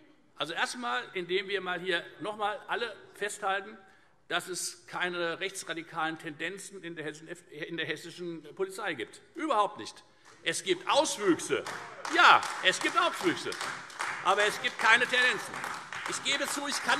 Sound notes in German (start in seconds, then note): 11.1 Beifall Freie Demokraten und AfD